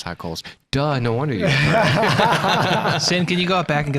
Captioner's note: all laughing